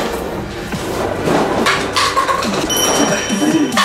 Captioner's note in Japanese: 紙コップが落ちる